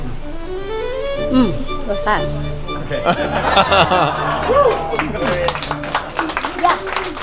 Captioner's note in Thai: เสียงหัวเราะ